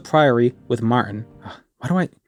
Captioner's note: exasperated sigh